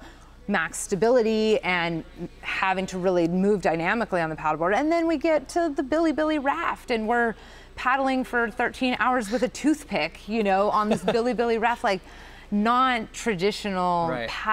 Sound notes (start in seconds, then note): 10.7 chuckles